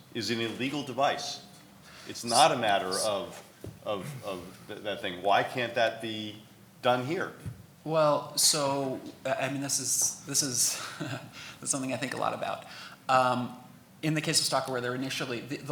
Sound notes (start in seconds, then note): 10.5 laughs